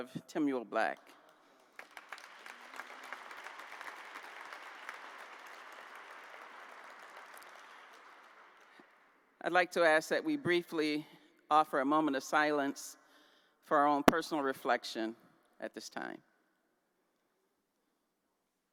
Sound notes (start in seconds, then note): 1.0 applause